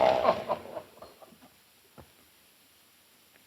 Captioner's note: laughing